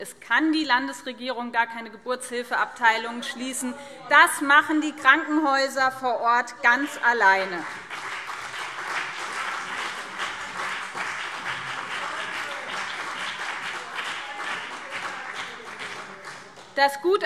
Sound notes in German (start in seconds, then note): 6.8 Beifall BÜNDNIS 90/DIE GRÜNEN und CDU